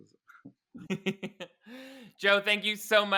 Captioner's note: giggling